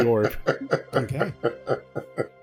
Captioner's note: laughter